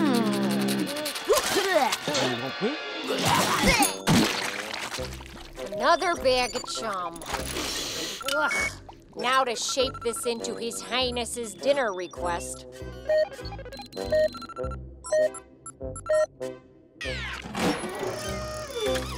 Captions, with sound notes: [vomiting] Another bag of chum. [sniffing] Ugh. Now to shape this into His Highness' dinner request. [beeping]